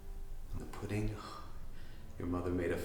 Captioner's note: sighing